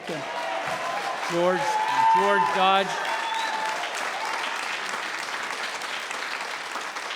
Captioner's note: applauding